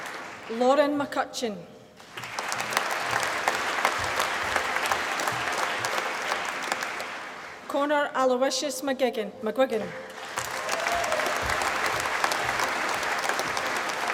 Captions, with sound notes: Lauren McCutcheon. (APPLAUSE) Connor Aloysius McGuigan. (APPLAUSE)